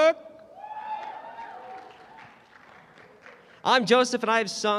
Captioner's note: applause